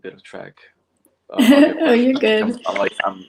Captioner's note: laughs